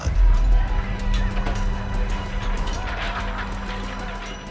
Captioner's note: clatter of swords